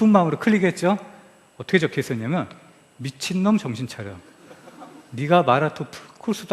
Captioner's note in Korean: 웃음